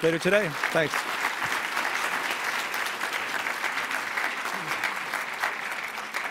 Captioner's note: applause